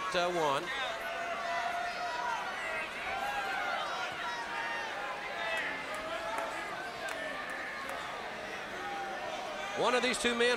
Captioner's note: crowd chatter